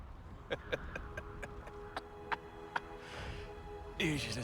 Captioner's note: laughs